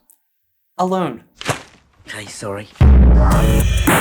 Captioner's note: thwap; outro Theme Music